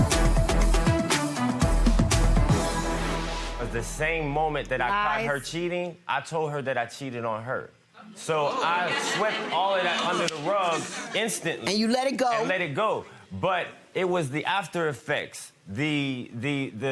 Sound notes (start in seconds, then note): 0.1 intense music; 8.9 audience chatter